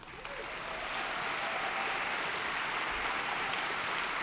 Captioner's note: audience applauds